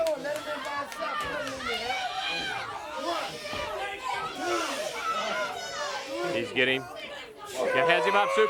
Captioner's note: crowd chatter